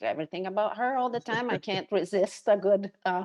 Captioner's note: chuckles